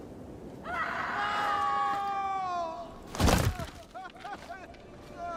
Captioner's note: screams from the village